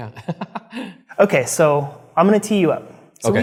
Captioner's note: laughs